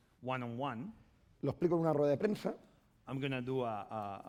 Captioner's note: speaking spanish